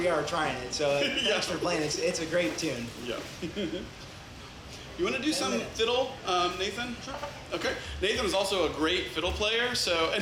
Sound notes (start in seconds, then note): 3.4 laughs